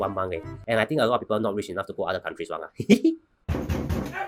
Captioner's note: laughs